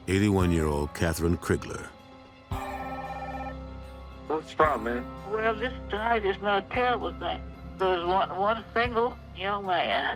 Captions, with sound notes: 81-year-old Kathryn Crigler. (phone ringing)